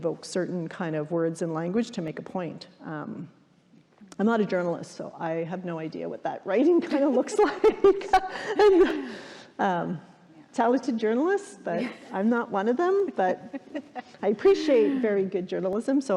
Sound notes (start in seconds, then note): 6.8 laughing